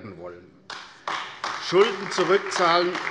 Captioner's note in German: Beifall AfD